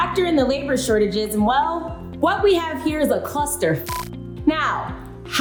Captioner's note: beep